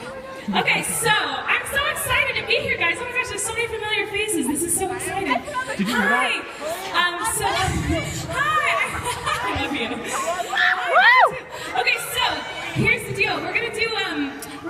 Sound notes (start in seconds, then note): 8.0 laughs